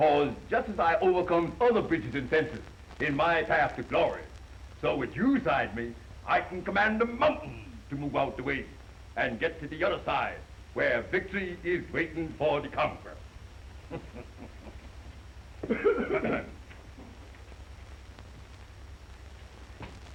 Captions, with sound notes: Because just as I overcome other bridges and fences in my path to glory, so with you beside me, I can command the mountains to move out the way and get to the other side where victory is waiting for the conqueror. (laughing) (coughing)